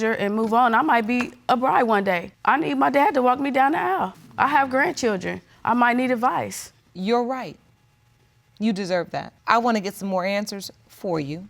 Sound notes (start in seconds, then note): none